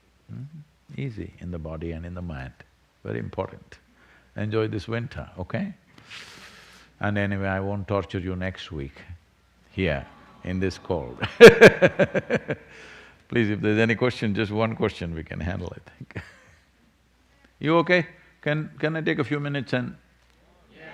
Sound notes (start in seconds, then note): 12.4 laughs